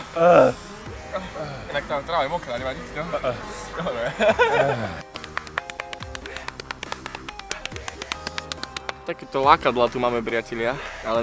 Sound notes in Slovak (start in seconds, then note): 5.0 údery rúk o brušnú stenu